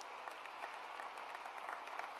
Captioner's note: cheers and applause